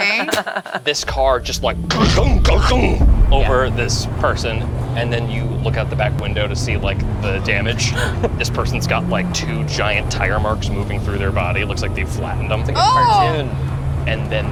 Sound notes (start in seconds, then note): 0.0 laughs; 7.9 gasps